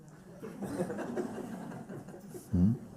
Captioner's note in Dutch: gelach